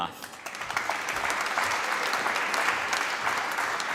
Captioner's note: applause